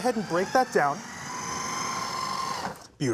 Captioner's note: whirring stops; processor whirring